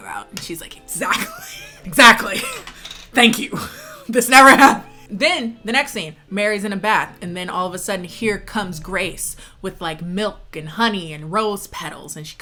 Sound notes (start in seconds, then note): 4.6 laughs